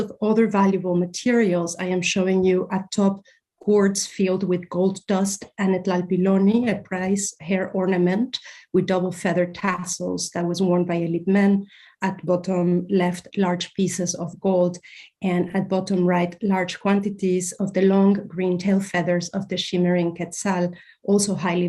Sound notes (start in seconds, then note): 6.0 non-english